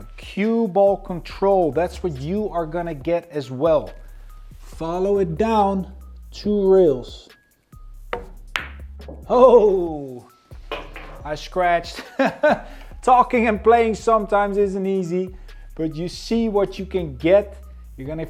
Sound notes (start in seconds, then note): 7.5 upbeat music continues; 8.1 ball bangs; 12.0 laughs